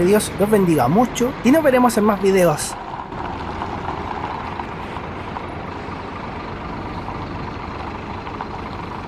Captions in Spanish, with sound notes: que Dios los bendiga mucho y nos veremos en más videos (sonido del bus yéndose) ETM 304 KYZK22 Premium 180°